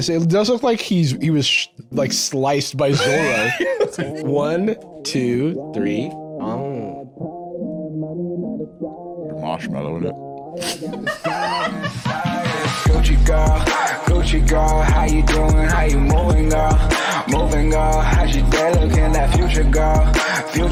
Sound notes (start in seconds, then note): 10.6 laughs; 11.8 outro music